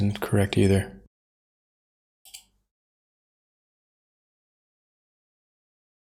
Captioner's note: blank Audio